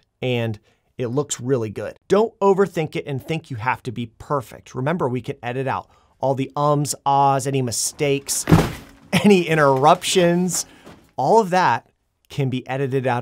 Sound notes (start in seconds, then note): 8.4 lamp bangs